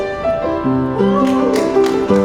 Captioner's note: clap clap clap